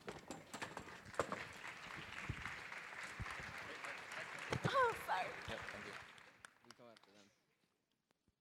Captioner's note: applause